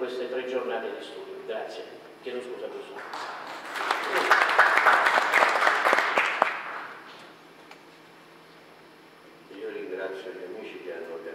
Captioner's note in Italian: Applauso